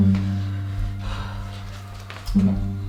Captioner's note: panting